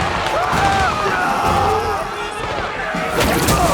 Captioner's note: soldiers screaming; gunshots popping